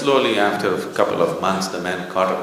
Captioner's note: few laugh